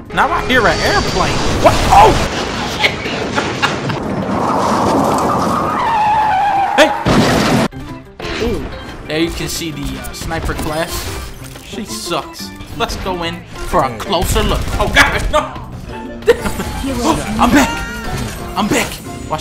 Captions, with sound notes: Now I hear an airplane. WAH! OOOH. SHIT [Laughter] hey. Ooh. Now you can see..the sniper class, she sucks. Let's go in for a closer look- OH GOSH NO Damn it! Hoh! I'm back! I'm back!